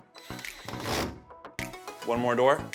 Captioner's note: drill whirring; drill rattles